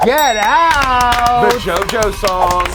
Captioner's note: all applauding